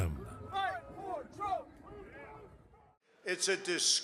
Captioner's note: crowd chanting